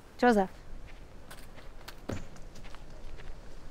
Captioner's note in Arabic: صوت ارتطام كتاب بالأرض